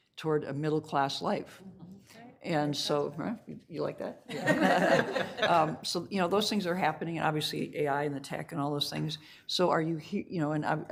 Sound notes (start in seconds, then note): 4.3 all laughing